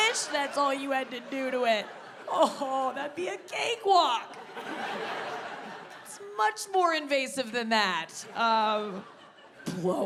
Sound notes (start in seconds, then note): 0.0 audience laughs; 1.8 audience laughing; 4.2 audience laughing; 8.6 woman in audience laughing